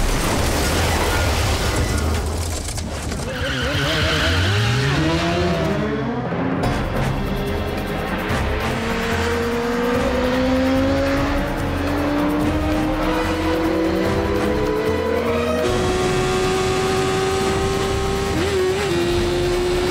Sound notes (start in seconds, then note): 2.8 tires screeching